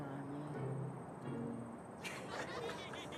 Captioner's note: laughter